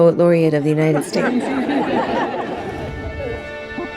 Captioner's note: audience laughs